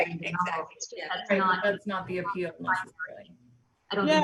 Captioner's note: overlapping chatter